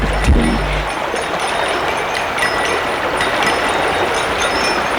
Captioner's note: jingling, running water continues